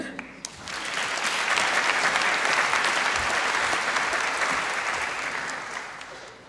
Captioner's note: applause